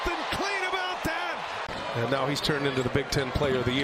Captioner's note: cheers and applause; crowd noise